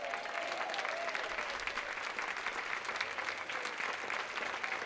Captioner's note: audience applauding